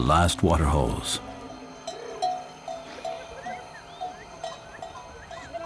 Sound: goat bells ringing

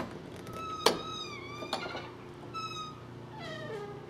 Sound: door squeaks

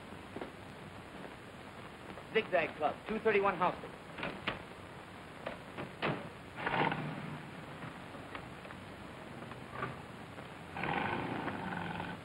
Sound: without accent

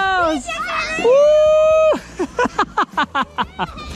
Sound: cheers

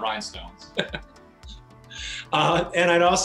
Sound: laughing

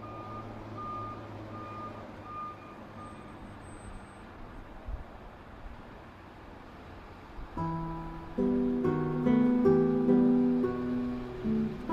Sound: traffic noise

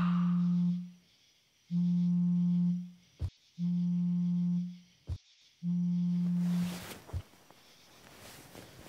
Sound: demonic whisper; phone vibrates

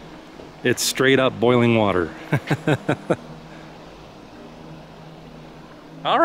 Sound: laughter

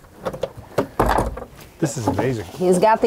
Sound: glove box clicking

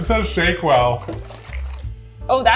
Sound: container shuffling; lounge music

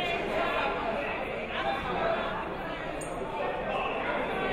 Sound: chatting

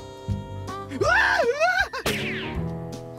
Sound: screaming

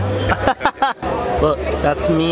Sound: laughs

